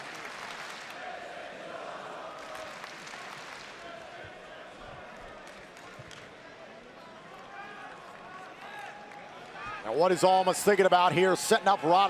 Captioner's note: crowd cheering